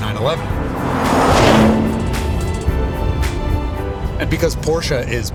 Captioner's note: engine revs